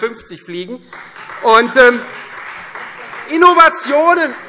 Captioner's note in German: Beifall Freie Demokraten